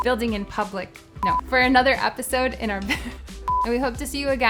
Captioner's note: beep; laughs; beep